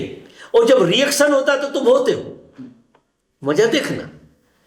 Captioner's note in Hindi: गला साफ़ करने की आवाज़